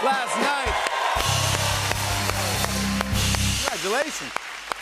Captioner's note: cheers and applause